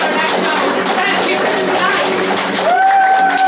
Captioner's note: cheering, applause